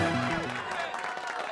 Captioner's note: cheering